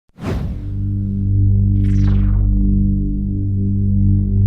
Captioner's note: futuristic sound effect